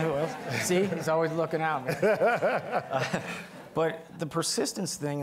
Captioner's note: all laughing; laughing